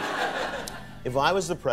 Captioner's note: audience laughter